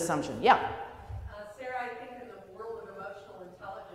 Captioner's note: voiceover